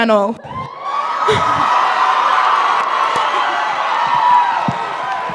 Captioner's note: crowd cheering